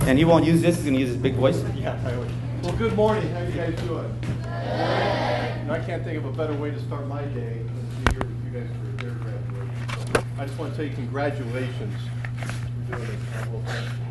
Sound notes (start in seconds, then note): 9.6 paper rustling; 9.9 object thuds